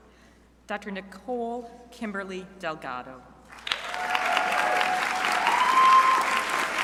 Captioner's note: crowd applauding